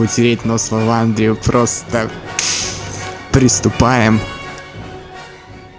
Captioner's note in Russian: хлопок